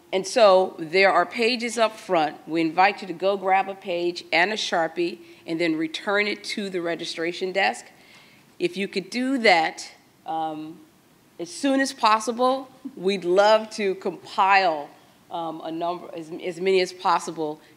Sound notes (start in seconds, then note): none